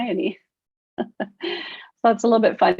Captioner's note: laughs